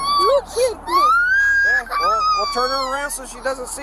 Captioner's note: child crying